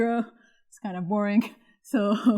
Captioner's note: laughter